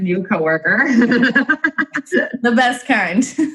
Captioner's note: laughing